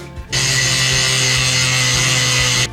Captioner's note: angle grinder noises